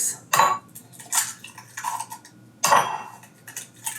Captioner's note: eggs cracking